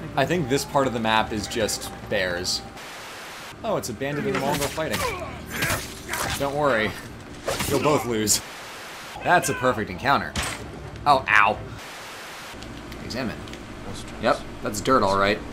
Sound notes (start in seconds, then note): 2.8 Static; 4.1 sounds of said fighting; 8.3 Static; 11.8 Static